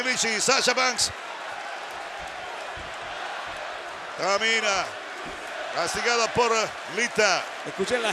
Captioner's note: applause